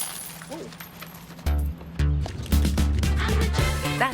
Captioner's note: coins falling